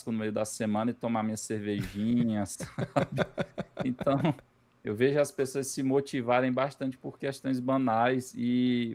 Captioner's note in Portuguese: risadas